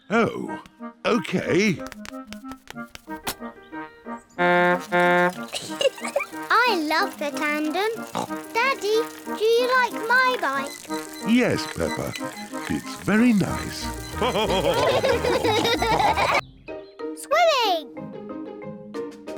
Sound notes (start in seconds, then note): 4.5 toots horn and giggles; 7.9 snorts; 14.0 all laugh